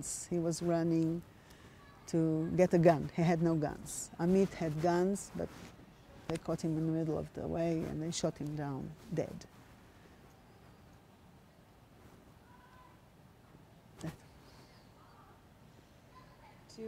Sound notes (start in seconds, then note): 10.0 pauses 6 seconds